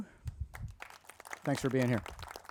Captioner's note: crowd applauding